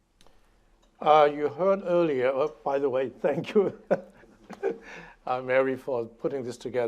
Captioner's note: laughing